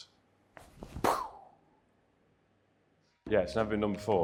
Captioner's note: Peter makes shooting noise